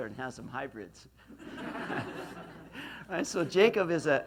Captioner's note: laughs